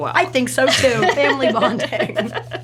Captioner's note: laughs